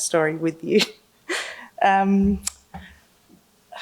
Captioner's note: laughing